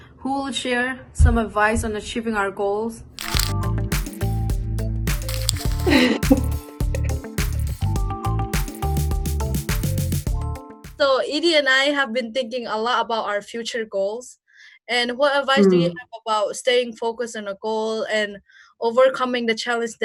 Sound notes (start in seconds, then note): 3.2 upbeat music; 5.8 laughs